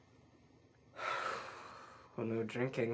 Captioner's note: sigh